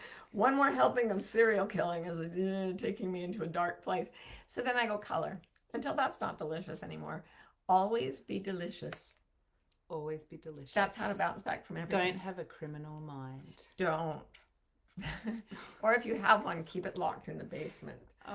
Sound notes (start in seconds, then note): 15.0 laughs